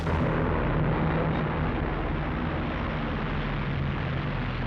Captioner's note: plane roaring